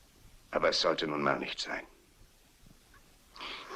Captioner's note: sighs